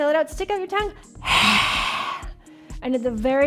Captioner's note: breath rushing